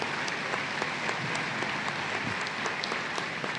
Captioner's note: applause